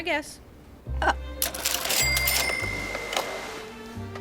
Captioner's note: cashier drawer rings